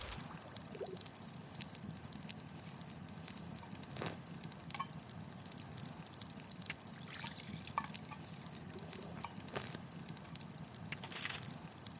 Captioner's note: water Boils & Fire Burns on fast forward